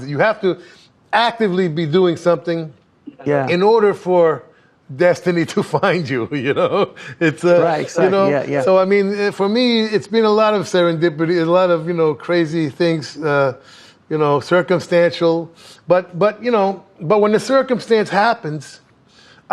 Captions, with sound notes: You have to actively be doing something in order for destiny to find you, you know? (laughs) It's, you know - Right, exactly - So, I mean, for me, it's been a lot of serendipity and a lot of, you know, crazy things, you know, circumstantial, but, you know, but when the circumstance happens,